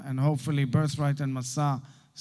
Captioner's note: Hebrew